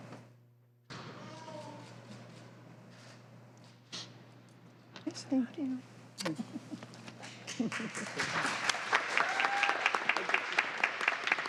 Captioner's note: applause